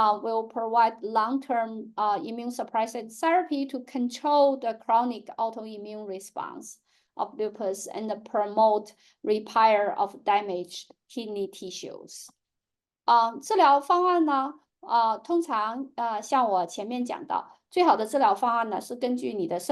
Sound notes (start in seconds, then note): 13.3 speaking chinese